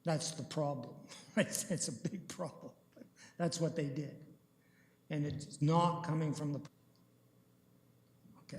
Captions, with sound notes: That's the problem--[chuckling]--right? That's a big problem, that's what they did, and it's not coming from the-- [audio drop]